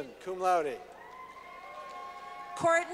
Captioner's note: clapping